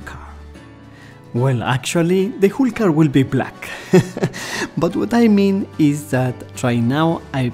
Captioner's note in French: rires